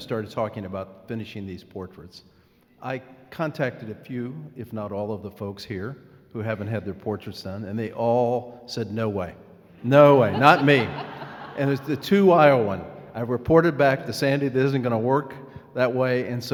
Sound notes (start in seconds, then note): 9.9 laughing